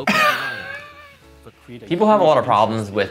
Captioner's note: laughing